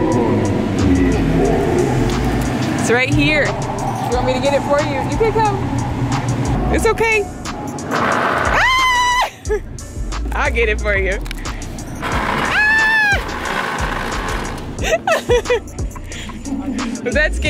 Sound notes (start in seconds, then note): 1.0 monster screaming; 8.0 monster screaming; 8.4 screaming; 12.4 screaming; 14.7 laughing